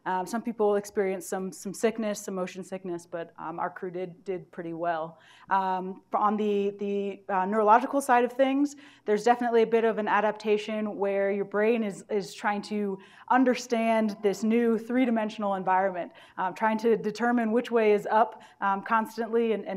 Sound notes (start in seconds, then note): none